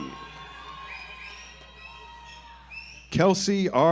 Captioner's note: audience applauds